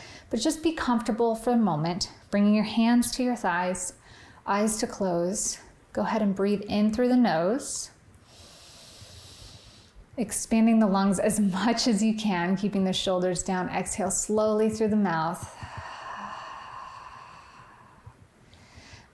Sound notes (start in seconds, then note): 8.2 inhaling; 15.4 exhaling